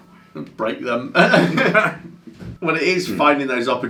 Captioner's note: laughs